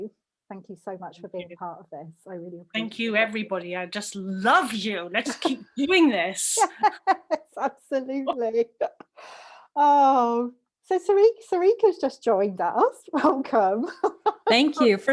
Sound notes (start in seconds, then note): 6.6 laughter; 13.9 laughs